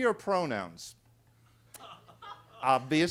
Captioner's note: attendees laughing